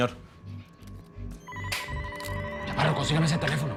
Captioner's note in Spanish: Suena un teléfono